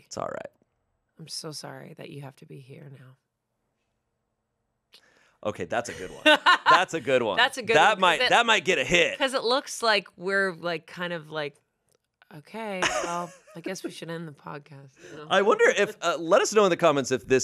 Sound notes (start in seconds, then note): 5.9 laughs